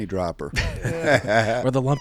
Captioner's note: group laughs